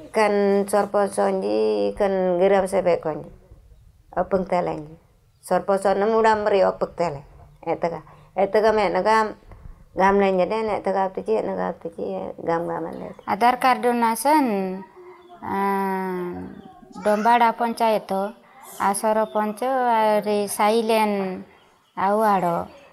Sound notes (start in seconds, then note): 13.0 speaking Jurai Sora